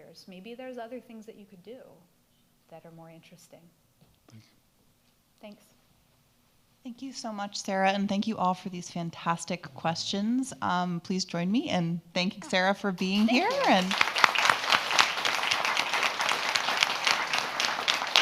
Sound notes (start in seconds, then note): 13.0 audience applauding